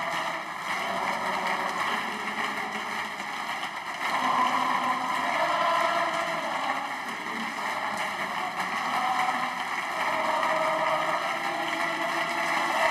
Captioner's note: cheers